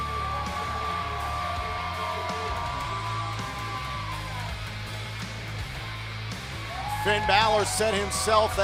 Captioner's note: cheers and applause